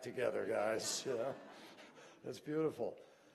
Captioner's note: laughter